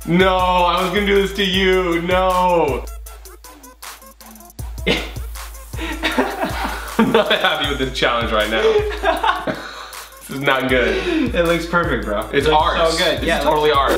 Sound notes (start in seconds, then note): 3.8 trippy music; 4.8 laughs; 8.3 laughs loudly